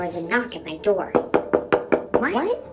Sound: knocking

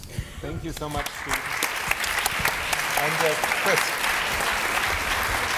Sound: applause

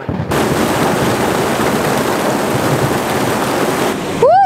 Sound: strong rain and wind

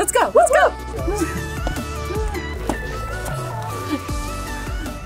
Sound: cheers and gasps

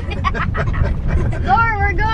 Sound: laughing

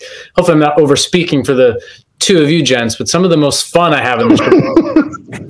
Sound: laughter

